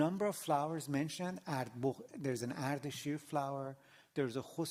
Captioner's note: non-english